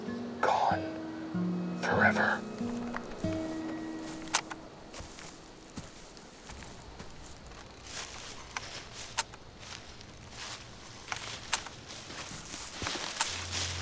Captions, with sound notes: ...gone, forever. (Click) (Camera shutter clicks several times) (Click)